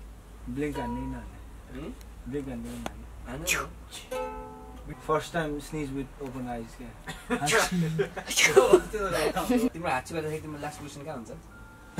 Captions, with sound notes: Should I blink or not? Hmm? Should I blink or not? - Yeah do it. - (fake sneeze) First time you sneeze with open eyes. (In Nepali) When you sneeze, where is your last position?